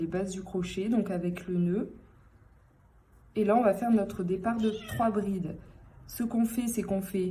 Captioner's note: meow